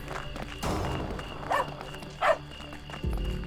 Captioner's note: running footsteps; wiley barks